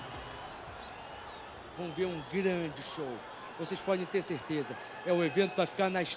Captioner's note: speaking Portuguese